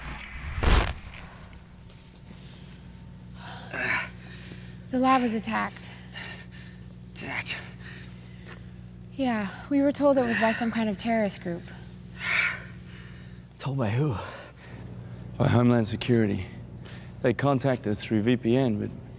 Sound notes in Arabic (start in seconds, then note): 12.2 زفير عميق